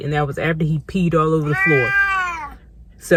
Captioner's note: meow